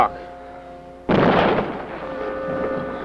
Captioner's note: explosion